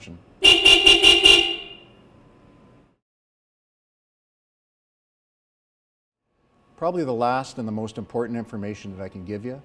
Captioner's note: beeps horn three times